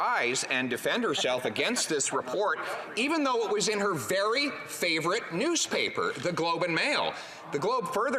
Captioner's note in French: voix de l'interprète